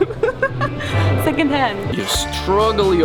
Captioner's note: laughs